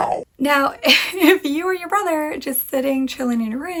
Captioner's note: laughs